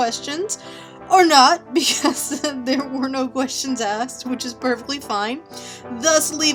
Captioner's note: giggles